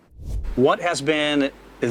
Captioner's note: air whooshing